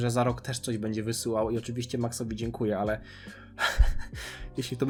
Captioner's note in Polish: śmiech